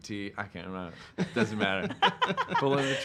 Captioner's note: laughing